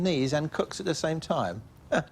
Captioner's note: chuckles